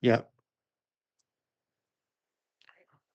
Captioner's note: silence